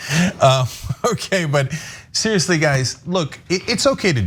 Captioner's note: laugh